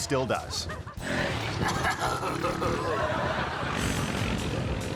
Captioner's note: audience laughing; man groaning; motor boat buzzing